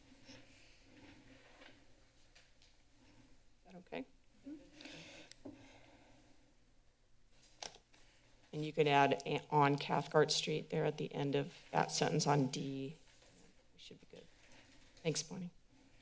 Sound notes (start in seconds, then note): 0.1 pause; 5.0 pause; 15.8 pause